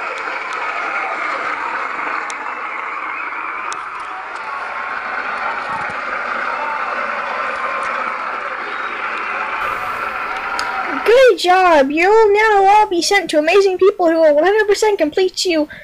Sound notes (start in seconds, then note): 0.0 canned applause